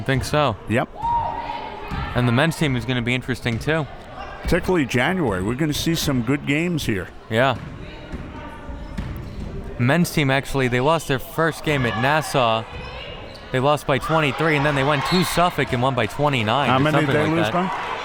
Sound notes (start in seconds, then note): 15.5 whistle